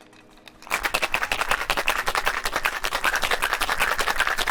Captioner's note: rattling